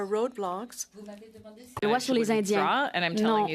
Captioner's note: speaking French